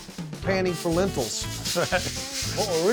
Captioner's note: rattling sound